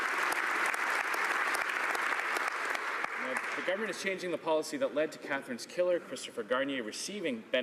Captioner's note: applause